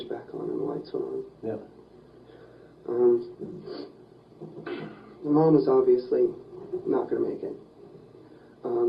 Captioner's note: sigh; sniffs